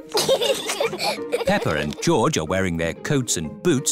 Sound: both giggle

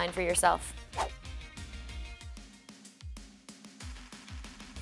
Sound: whooshing

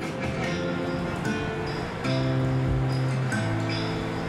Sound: monsoon sounds over music bed

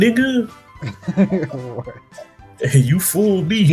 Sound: laughs

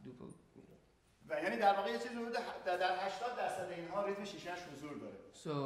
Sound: speaking in farsi

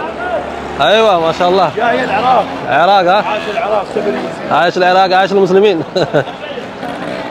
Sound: Arabic

